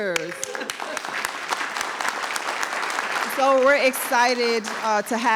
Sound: audience clapping

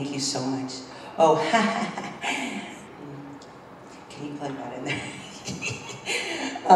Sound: laugh

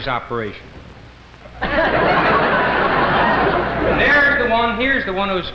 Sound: crowd laughs

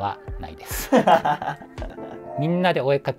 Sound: laughing

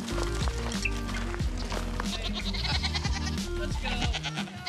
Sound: goat baas

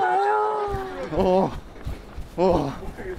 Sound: heavy breathing

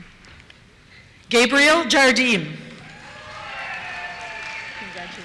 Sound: cheers

